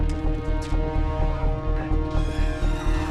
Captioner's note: metal creaks